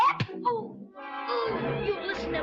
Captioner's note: blow thudding; boys groaning